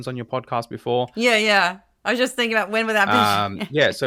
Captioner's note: laugh